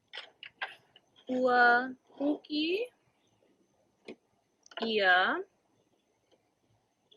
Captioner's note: student 1 speaks in native language